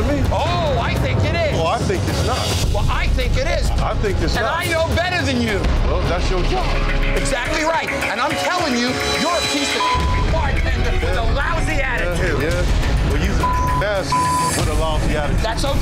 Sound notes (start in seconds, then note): 9.6 beep; 13.4 beep